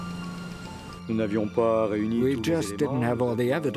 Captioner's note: speaks in foreign language